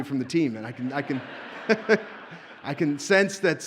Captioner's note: audience laughs